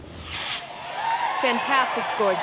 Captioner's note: cheers